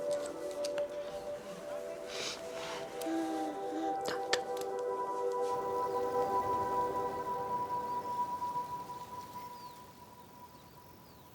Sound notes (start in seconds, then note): 4.7 birds and wind